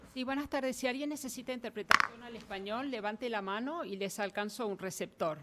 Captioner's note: speaking in foreign language